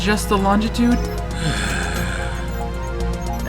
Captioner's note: sighs